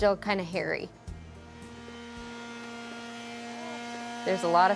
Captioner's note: sander whirring